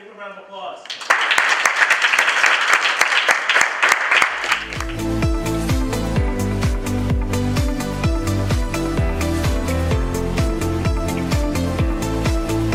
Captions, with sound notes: give him a round of applause. (applause) (energized music)